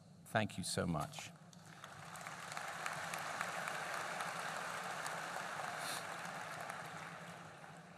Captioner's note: applause